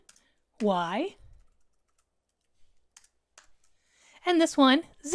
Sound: keyboard clanking

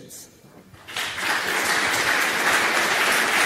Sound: applause

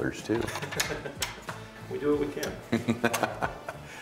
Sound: chuckles; chuckles

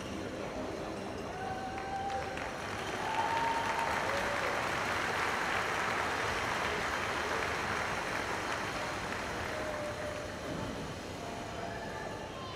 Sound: cheers and applause

